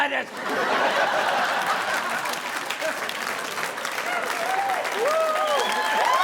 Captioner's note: audience laughing; audience applauding